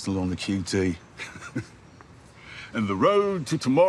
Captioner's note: he chuckles